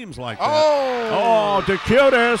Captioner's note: crowd cheering